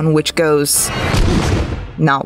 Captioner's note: crashing sounds